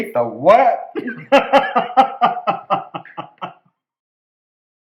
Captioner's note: laughter